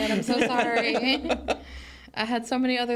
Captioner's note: hosts laughing